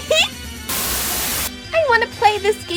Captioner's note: Static